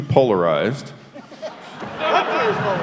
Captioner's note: laughter